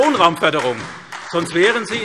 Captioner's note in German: Beifall SPD